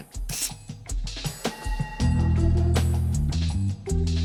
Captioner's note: computer beeps